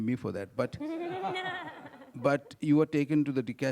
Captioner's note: audience laughing